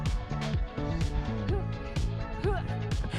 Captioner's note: none